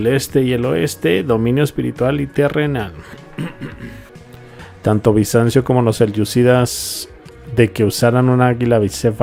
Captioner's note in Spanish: carraspeo